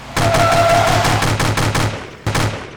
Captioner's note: machine gun shooting